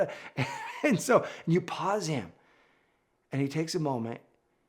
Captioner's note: laughs